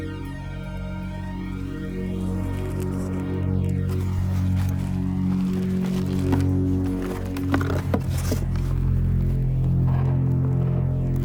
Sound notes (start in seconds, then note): 2.8 rustling; 7.4 somber synthesizer music